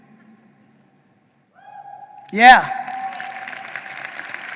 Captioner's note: audience cheering and applauding